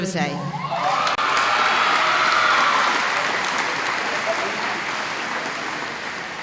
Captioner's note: applause